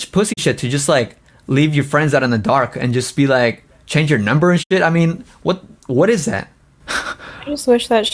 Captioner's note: laughs